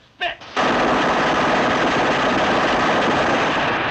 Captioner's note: gunshots